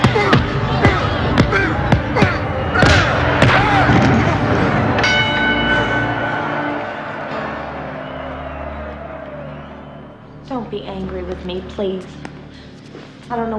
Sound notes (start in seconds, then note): 0.0 bell dings; 0.0 Mike grunting; 4.4 bell dings